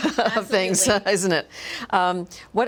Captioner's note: laughs